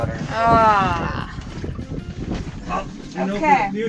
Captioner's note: groaning